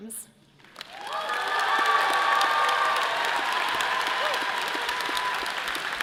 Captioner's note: audience cheers and applause